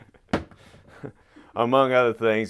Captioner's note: laughs